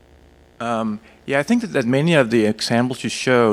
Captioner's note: voiceover